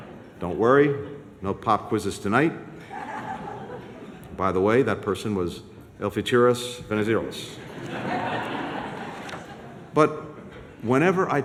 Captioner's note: laughter; laughter